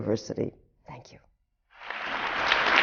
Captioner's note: applause